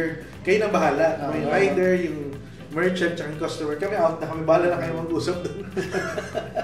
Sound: laughs jokingly

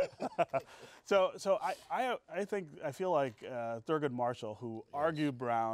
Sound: laughing

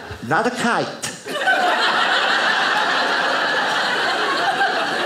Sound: audience laughing

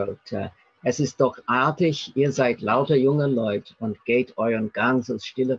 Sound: speaking in German

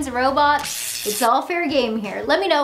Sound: robot buzzing

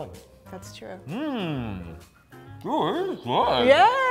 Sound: hand clapping

